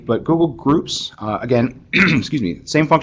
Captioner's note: cough